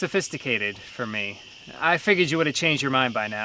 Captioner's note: crickets chirping